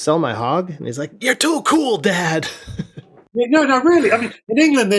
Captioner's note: laughter